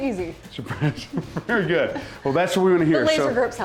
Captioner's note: laughs